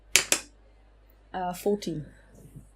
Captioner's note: dice clacks